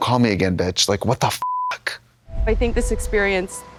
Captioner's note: beep